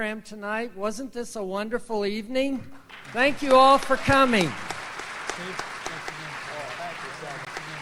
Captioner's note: audience applauds